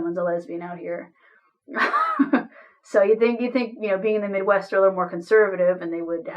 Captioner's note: laughs